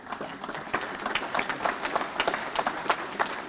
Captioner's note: applause